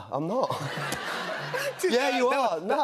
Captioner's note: laughter